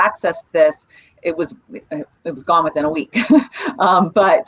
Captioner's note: chuckles